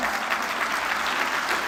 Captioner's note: applause